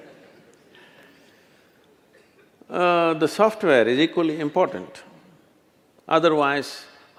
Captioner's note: laughter